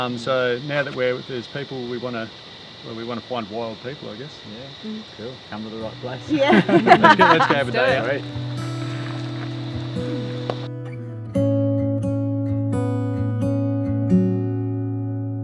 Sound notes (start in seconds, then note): 6.2 laughing; 10.0 gentle acoustic music